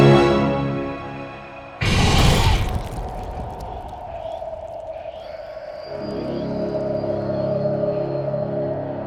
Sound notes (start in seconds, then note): 1.8 The Patriarch munching; 1.9 eerie music